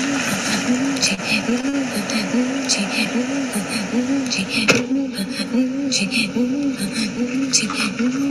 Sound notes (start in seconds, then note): 4.7 door closes